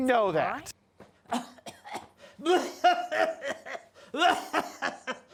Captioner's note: coughing